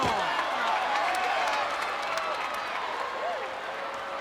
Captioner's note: crowd claps